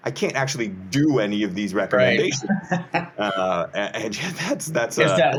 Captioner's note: laughs